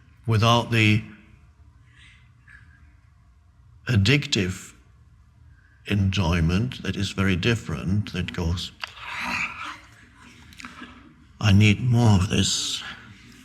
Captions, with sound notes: without the addictive enjoyment. That is very different. That goes, (imitating chewing vociferously). I need more of this.